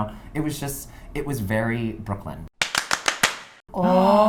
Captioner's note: claps